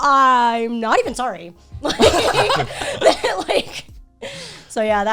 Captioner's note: all laughing